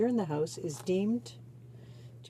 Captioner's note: speaking French